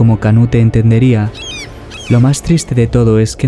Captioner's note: bird